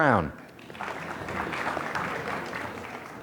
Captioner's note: applause